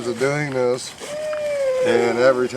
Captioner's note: owl hooting